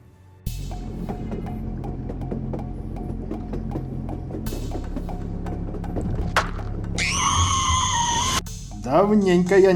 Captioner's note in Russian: звук движения поезда, затем детский крик